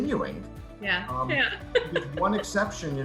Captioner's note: laughs